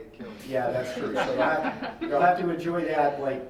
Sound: laughing

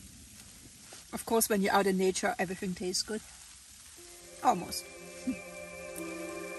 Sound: laughs

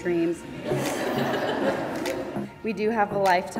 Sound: audience laughs

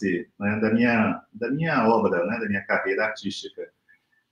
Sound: speaks portuguese

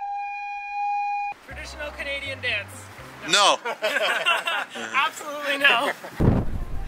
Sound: laughing

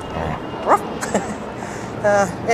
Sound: chuckle

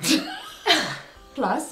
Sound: both laugh

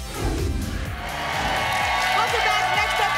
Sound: applause and cheering

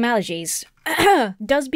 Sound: clears throat

